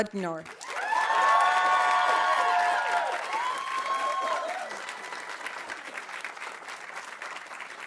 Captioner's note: audience applauding; audience cheering